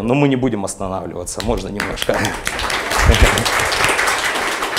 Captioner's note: applause